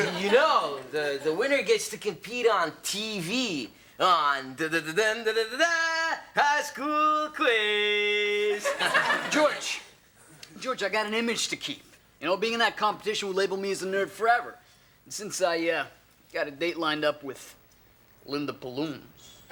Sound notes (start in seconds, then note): 4.6 imitates fanfare; 8.5 audience laughs